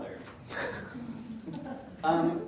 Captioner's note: audience chuckles